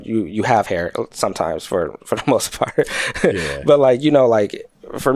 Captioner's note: chuckles